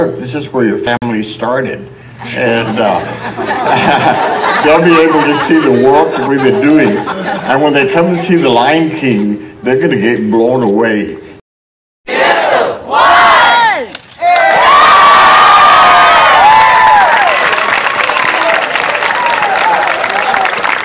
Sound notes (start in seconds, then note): 2.2 crowd laughs; 14.1 crowd; 14.2 screams and cheers; 15.7 applause